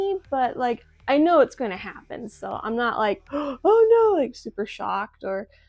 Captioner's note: gasp